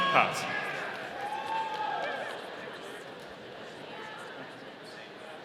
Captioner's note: audience cheering